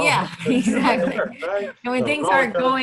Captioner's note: laughing